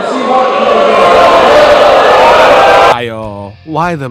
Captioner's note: crowd boos